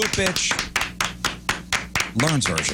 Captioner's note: clapping